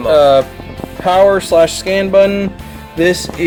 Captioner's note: voiceover